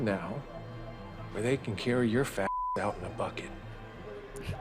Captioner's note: beep